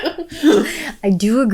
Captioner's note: both laughing